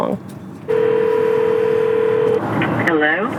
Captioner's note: phone ringing